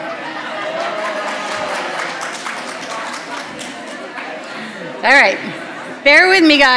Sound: audience chatter; applause

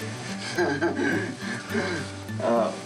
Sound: laughs

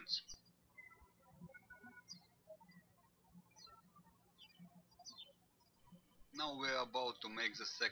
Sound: birds chirping

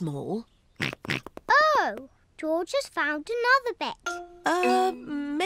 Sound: snorts

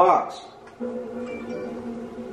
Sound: deeper voice sounds; phone goes off

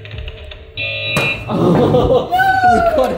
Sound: buzzer beeps loudly; slams table

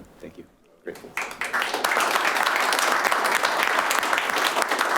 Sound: clapping

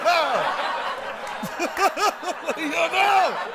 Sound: laughter

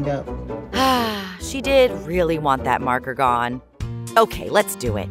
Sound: sighing

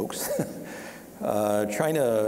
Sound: chuckling

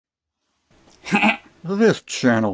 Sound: chuckle

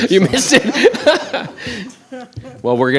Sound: laughs

